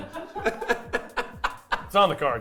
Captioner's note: laughing